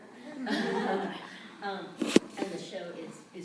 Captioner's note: laughter